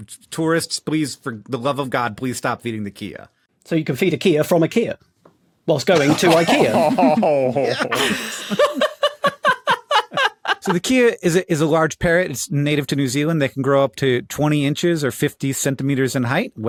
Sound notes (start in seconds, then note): 6.0 cringe-laughs; 7.8 laughs heartily